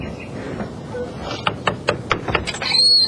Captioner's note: knocking